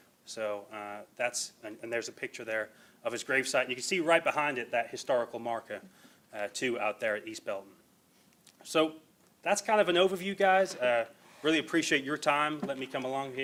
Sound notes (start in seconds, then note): none